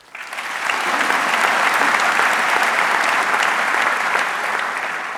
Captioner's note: audience cheering and applauding